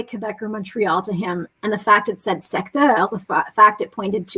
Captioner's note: speaking french